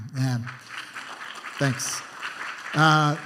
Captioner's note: applause